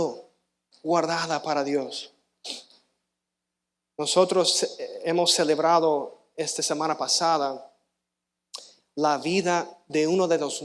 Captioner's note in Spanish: resoplido